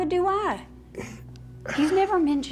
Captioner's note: scoffs